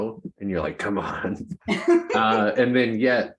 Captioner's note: laughs